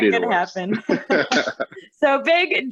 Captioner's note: laughter